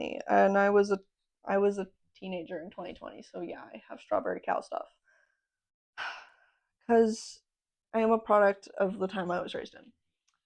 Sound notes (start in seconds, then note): 6.0 sigh